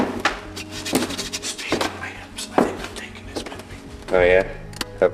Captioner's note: whispers